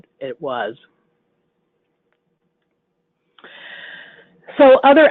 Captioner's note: silence